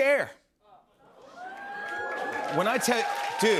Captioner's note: cheers and applause